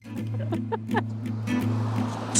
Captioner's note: laughs